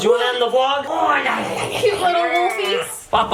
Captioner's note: playful gnawling sounds